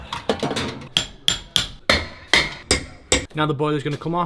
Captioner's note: hammering